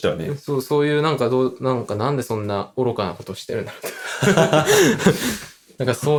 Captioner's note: laughs